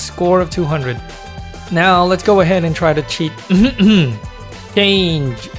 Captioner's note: ahem